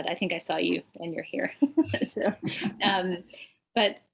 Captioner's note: chuckles